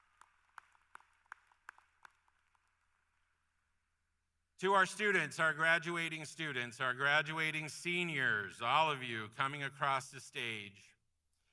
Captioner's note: applause